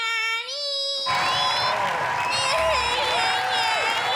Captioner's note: crowd cheering